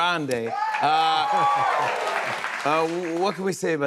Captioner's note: cheers and applause